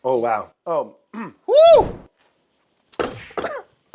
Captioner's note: coughs